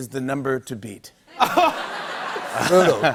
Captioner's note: laughter